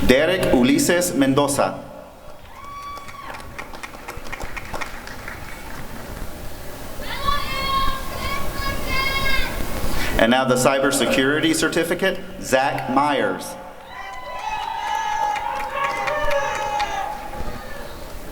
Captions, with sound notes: Derrick Ulysses Mendoza [applause and cheering] And now the Cyber Security Certificate— Zach Myers [applause and cheering]